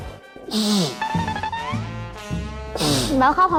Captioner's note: sniffing